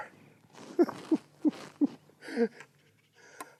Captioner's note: laughing